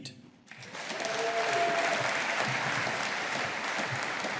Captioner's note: audience applauding